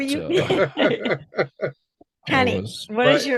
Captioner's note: laughing playfully